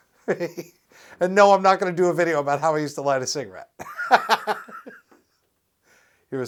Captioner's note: laughs; laughs